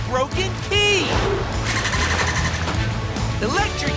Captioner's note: dolphin clicking